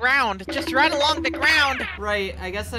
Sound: cartoon running sounds

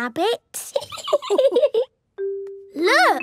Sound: laughing

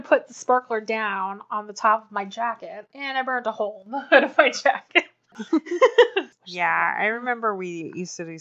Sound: laughs

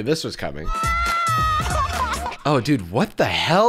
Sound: crying

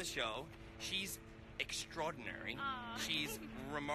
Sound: laughs

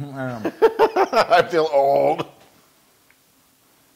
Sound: laugh

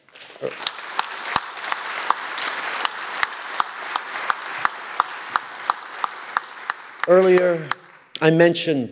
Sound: applause

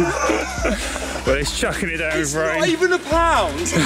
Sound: laughter

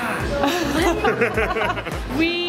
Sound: laughs

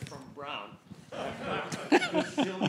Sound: laughter

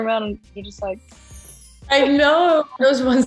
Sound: twinkling chime

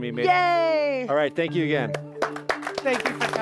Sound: audience applauding

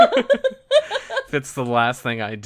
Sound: laughs

